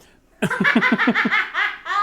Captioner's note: laughing